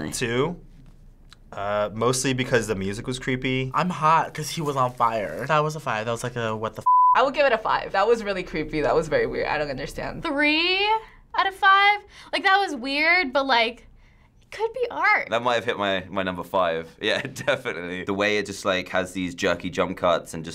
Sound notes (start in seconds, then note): 17.1 chuckles